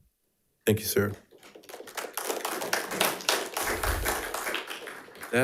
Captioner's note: audience applauding